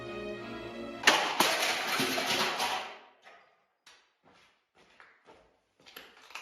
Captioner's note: plastic smashing